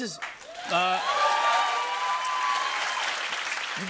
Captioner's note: cheers and applause